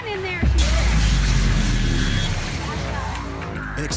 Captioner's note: explosion